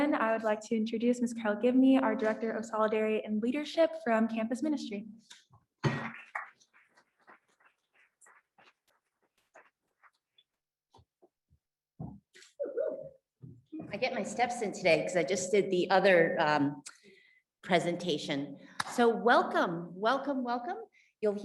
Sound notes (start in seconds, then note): 6.1 audience applauds